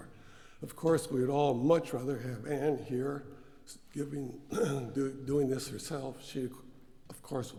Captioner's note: cough